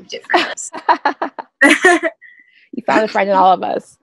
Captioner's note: laughter